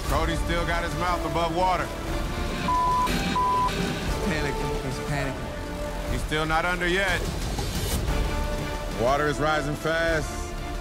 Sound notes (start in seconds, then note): 2.6 beep, beep